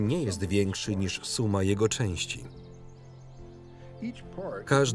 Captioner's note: birds chirp